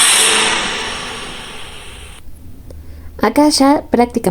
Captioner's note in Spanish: grito